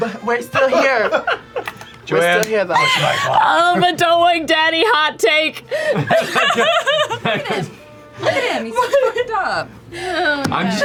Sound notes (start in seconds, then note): 0.0 laughter; 5.8 laughter